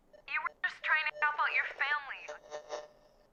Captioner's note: signal interference